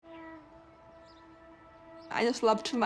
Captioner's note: birds twitter